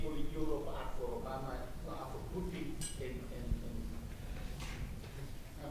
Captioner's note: audience member off mic